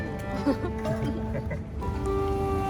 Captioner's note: awkward chuckling